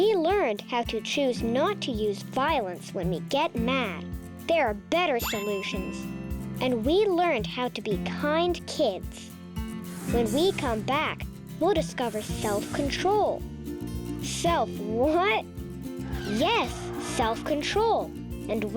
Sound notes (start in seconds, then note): 5.2 check mark rings; 14.4 chuckling